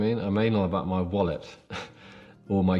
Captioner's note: chuckles